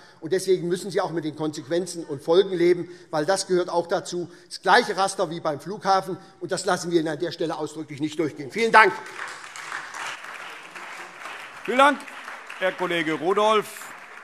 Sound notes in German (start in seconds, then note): 8.6 Beifall SPD und Freie Demokraten